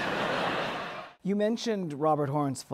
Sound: laughter

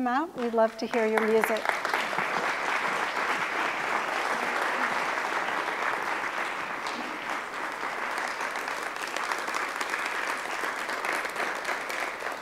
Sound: applause

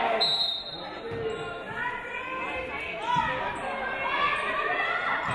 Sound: referee blows whistle

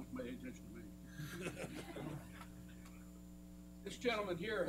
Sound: laughter

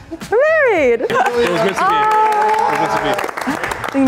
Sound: applause

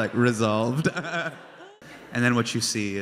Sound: crowd laughs; laughing

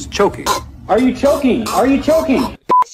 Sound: choking

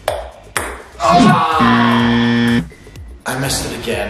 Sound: buzzer shrilling

